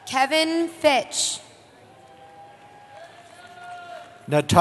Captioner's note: cheering